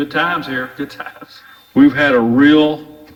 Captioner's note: chuckles